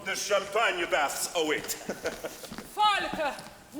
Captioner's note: giggling